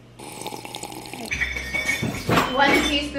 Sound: sipping sounds; rummaging

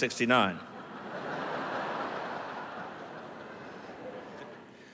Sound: laughter

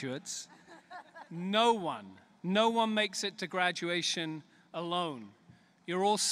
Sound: laughter

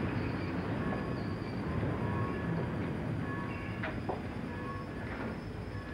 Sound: railroad sirens blare

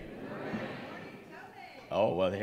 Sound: audience responds

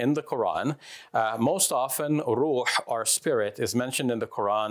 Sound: speaks foreign language

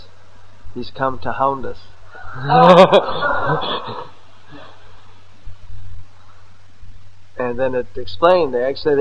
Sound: laughter

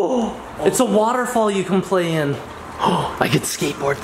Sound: gasps

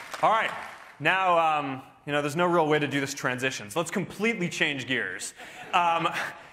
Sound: applause

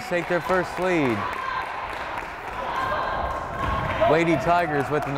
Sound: crowd cheering and applauding

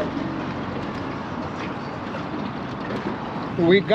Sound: boat engine idling

